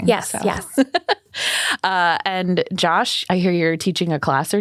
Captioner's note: laughs